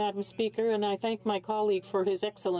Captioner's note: speaking in French